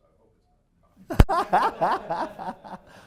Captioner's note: laugh